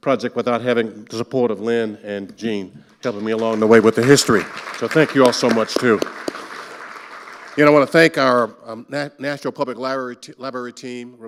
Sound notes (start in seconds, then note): 5.9 clapping; 6.2 audience applauding